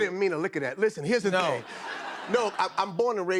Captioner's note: laughter